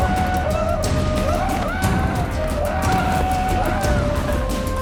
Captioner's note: Wally yells, trembling; Wally screams